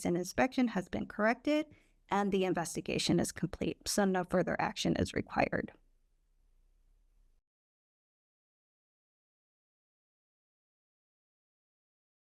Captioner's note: silence